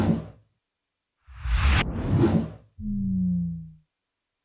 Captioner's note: air whooshing